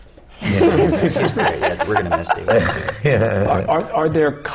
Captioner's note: laughter